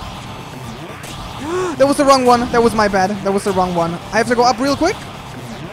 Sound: gasps

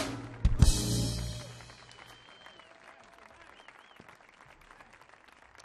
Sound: audience cheering

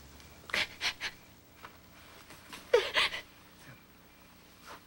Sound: crying

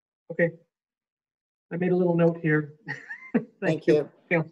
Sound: chuckles

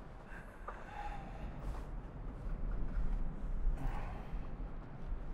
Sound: breathing deeply

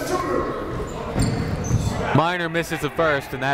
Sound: shouting

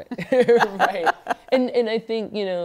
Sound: laughter

